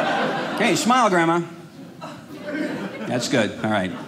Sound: audience laughing

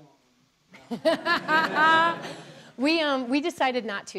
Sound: laughter

